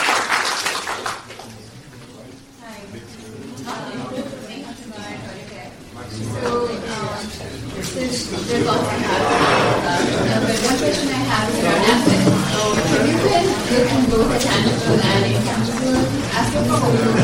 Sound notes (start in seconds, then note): 4.1 crowd talking